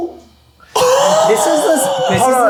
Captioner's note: laughing